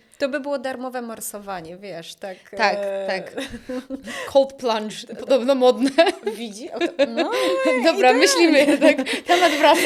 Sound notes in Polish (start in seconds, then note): 3.3 śmiech; 6.6 śmiech